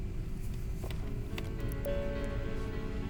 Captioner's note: beep